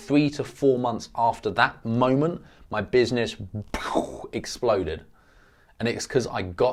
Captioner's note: mimics explosion